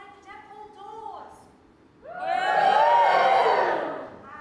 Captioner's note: audience cheers